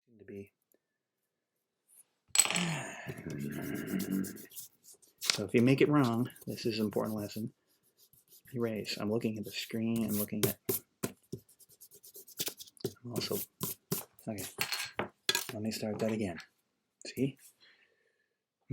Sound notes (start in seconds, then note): 3.0 grumbling